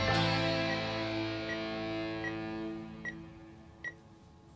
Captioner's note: life support unit sound